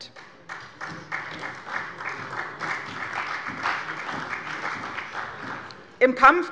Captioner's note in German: Beifall bei der CDU und dem BÜNDNIS 90/DIE GRÜNEN